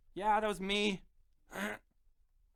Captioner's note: cough